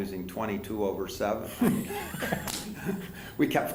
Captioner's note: laughter